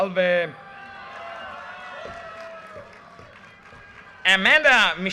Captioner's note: audience cheers and applause